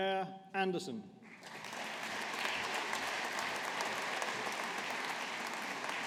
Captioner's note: audience applauding